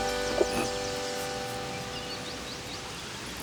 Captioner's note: birds chirp